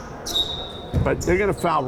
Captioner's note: whistle blowing